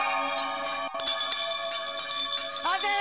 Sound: bell ringing

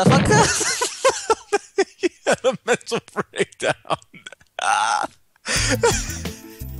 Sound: insane Laughter; more Insane Laughter

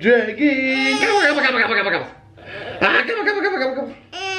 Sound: baby talk

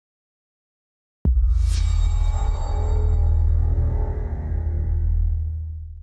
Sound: transition sound

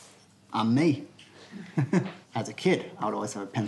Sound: laughter

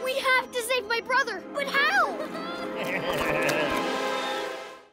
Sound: chuckles

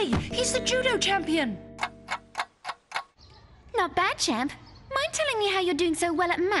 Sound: clock ticking

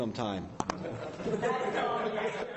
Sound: laughter

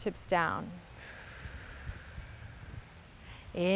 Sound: exhales

